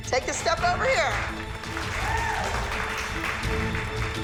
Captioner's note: cheering